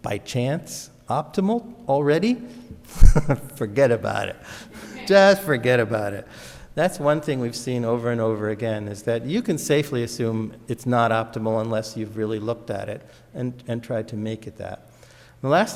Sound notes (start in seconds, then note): 2.9 laughs; 4.8 audience laughs